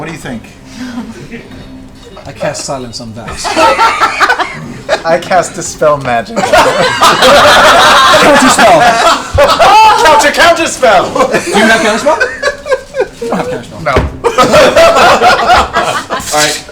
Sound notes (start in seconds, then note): 3.4 all laugh; 14.2 all laugh